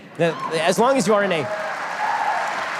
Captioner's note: audience cheers